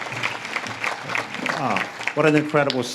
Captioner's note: audience claps